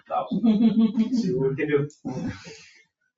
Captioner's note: people chuckle